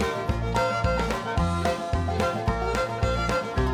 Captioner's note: groaning